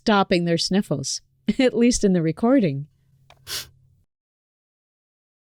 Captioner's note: sniffles